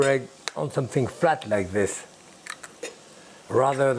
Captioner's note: egg cracking